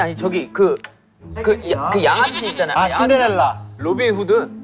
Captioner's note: mispronunciation